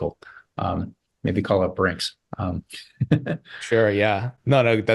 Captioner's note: chuckles softly